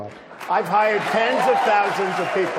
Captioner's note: applause